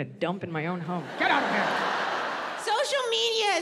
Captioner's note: audience laughs